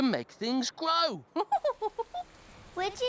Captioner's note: tula chuckling